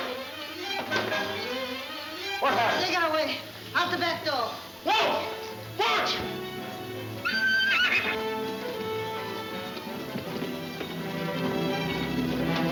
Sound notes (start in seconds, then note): 5.5 horse whinnying; 8.0 exciting orchestra music